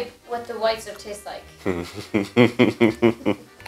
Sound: laughs

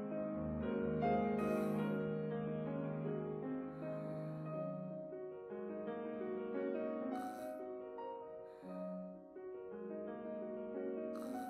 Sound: sighs

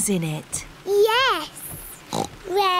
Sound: oinks

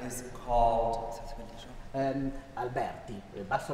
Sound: speaking french

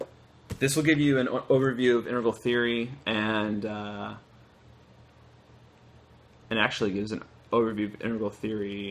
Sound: flips pages

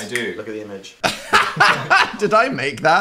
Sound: laughs

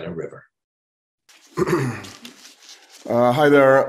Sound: clears throat

